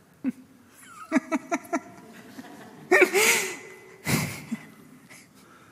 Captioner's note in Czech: smích